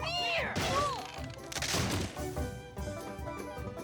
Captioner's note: bang!